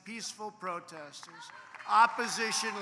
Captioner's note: applause